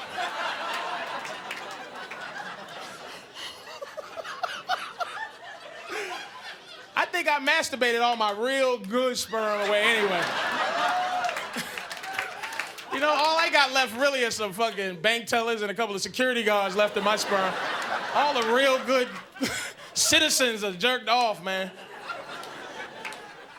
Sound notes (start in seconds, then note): 0.0 audience laughing; 4.4 Patrice laughs; 9.2 audience laughing